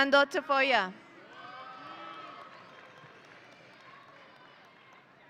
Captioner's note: audience cheering